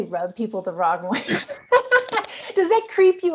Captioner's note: laugh